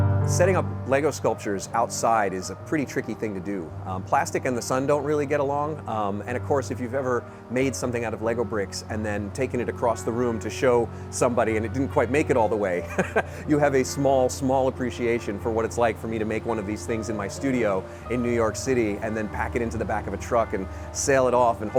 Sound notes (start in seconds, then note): 12.8 laughs